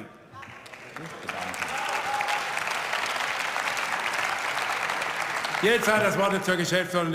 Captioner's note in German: Zwischenruf und Beifall